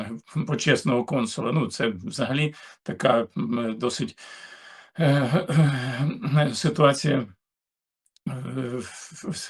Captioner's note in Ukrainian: прочищення горла